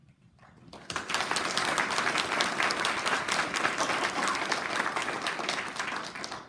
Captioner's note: applause